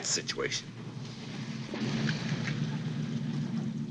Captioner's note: truck engine rumbling